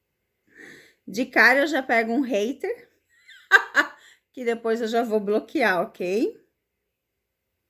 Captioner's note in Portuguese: risadas